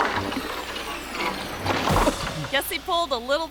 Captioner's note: gutter thuds; person thuds and groans